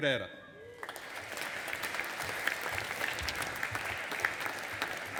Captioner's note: audience applauding